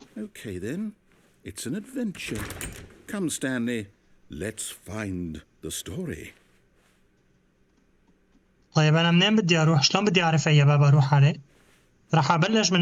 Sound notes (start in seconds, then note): 6.0 footsteps